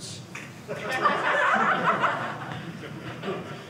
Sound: audience laughing

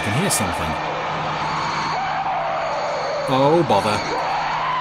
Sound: creature roaring

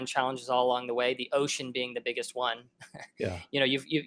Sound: chuckles

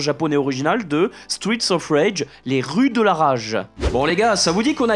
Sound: in french

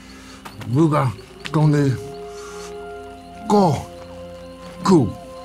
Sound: V'rugga speaks gibberish

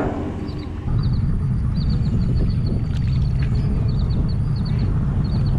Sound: boat engine roaring

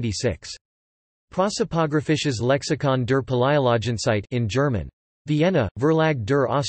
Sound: in German

